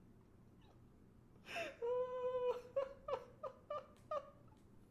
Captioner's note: laughs